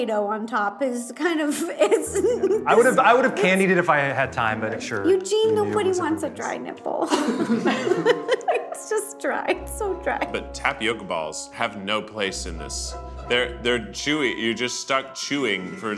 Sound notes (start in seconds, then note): 1.6 laughs; 7.0 group laughs